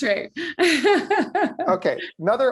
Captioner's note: laughs